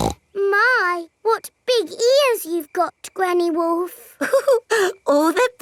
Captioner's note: snorts; chuckles